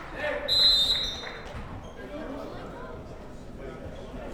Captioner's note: whistle blows